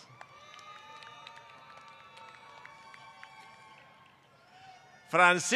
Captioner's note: applause